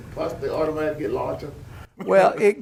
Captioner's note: laughter